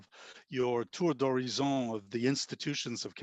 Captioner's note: speaking in foreign language